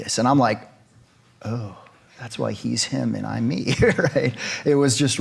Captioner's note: laughs